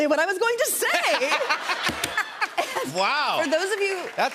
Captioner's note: laughter